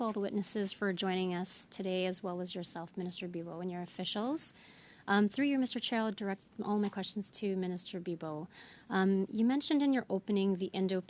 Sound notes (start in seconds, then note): 1.1 speaking french